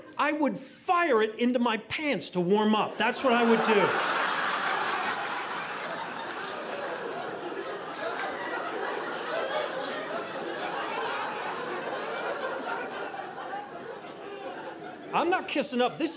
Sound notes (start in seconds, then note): 2.9 audience laughing